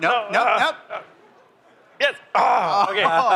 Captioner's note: laughter